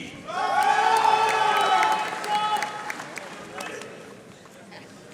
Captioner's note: audience cheering and applauding